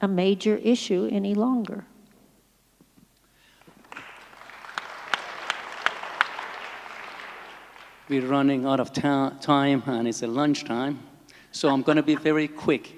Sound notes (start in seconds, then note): 3.5 applause